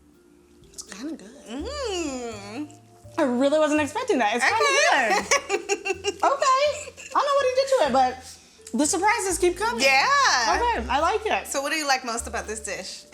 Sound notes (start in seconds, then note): 5.0 laughter